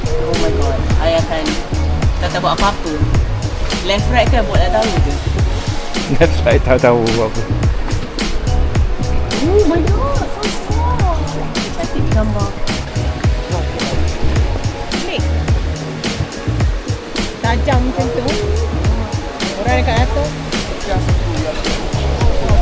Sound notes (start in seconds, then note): 9.2 laugh